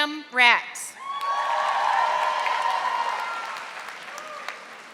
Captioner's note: audience applauding